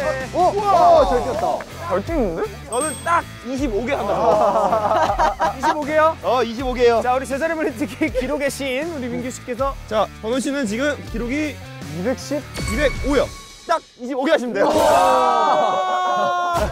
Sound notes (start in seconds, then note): 3.9 hahahaha